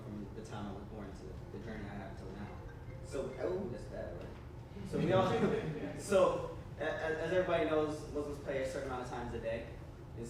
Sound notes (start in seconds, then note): 2.4 phone rings; 4.9 audience laughs